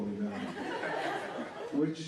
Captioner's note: laughter